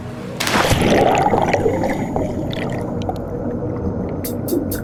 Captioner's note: water splashing